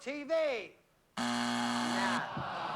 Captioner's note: buzzer